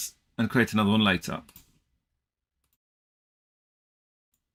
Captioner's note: mouse clicking